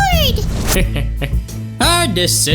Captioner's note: dimentio laughs